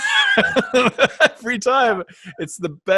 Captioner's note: laughs